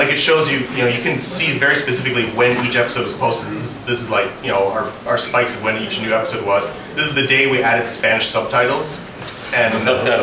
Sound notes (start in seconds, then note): none